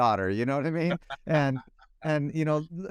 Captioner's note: laughs